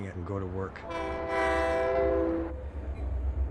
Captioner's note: train horn